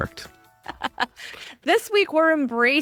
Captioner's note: laughs